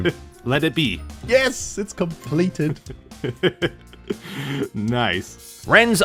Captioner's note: chuckles